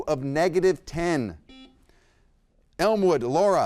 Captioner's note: buzzer beeps